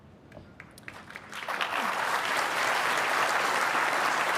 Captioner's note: applause